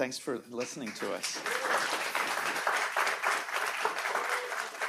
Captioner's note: audience applauding